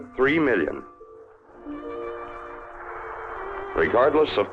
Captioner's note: soft dramatic music; fire crackling